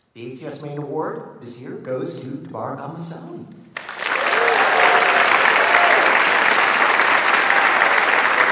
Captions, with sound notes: The ACS Maine Award this year goes to Tabarak Al Musawi. (audience applauds)